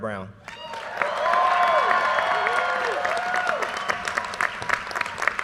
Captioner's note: audience cheers and applause